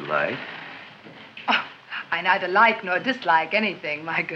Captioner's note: chuckles